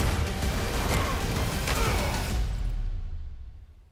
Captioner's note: gunshots